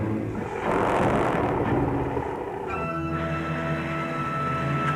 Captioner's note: growling